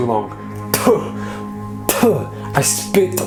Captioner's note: imitates spitting